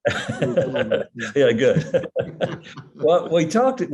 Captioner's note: both laugh